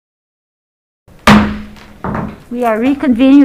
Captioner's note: gavel slams